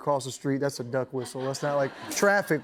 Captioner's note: laughter